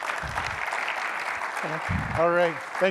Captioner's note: applause